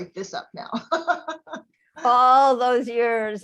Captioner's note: laughing